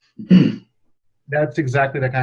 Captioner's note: clears throat